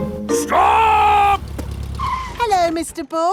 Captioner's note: brakes squeal